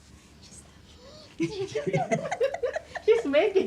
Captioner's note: laughter